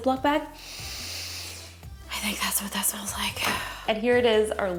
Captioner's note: sniffs